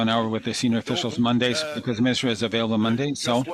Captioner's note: speaking in French